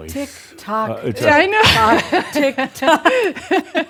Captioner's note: she laughs